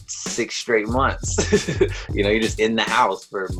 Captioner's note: laughs